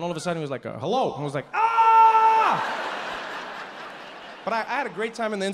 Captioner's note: screams